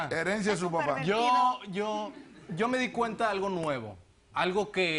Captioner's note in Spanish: Risas